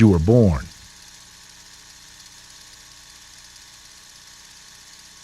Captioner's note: film reel running